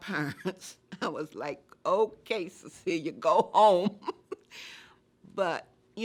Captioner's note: laughing